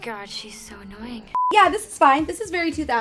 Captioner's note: beep